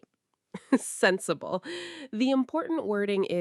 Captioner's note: chuckles